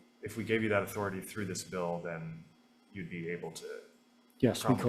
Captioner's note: faintly speaking